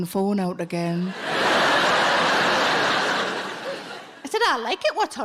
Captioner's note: audience laughing